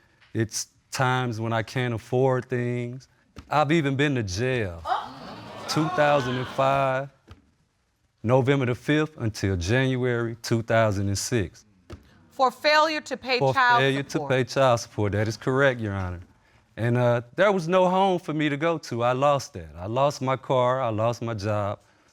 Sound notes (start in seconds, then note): 4.9 audience gasp